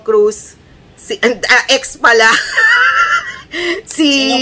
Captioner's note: laughter